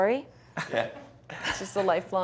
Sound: laughs

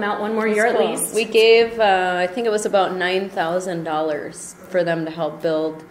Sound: voiceover

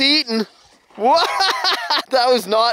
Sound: laughs

